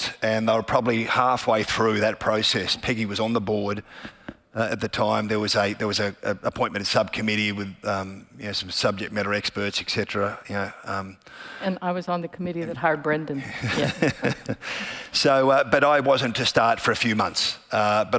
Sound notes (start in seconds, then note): 13.4 laughing